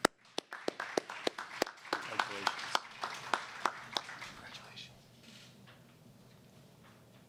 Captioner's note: applause